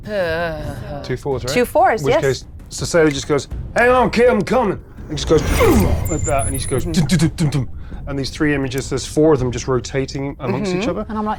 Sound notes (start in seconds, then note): 5.8 groans